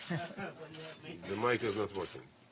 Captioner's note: laughter